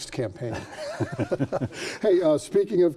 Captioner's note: both laughing